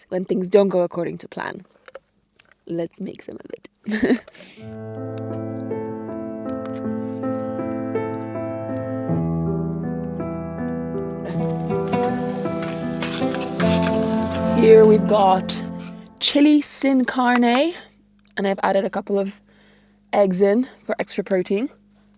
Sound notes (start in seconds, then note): 4.7 pleasant music; 11.2 food sizzling